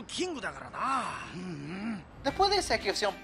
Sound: in Japanese

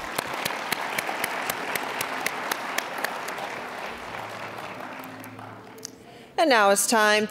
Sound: applause

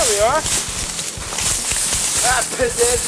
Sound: leaves rustling

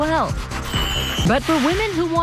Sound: chimes

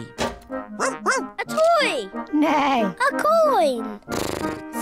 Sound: barks; neighs; snorts

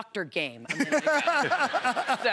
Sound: laughter

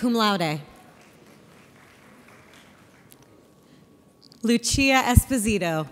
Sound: audience applauds

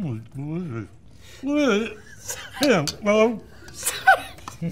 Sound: mumbling; laughs

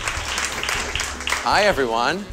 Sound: applause

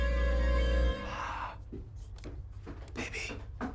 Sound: blows

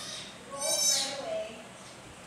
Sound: otter crying

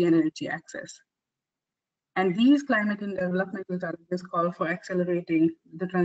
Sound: audio static

